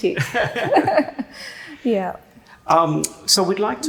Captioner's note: laughing